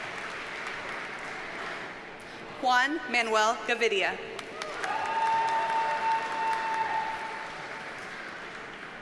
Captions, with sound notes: Juan Manuel Gavidia. (audience cheers and applauds)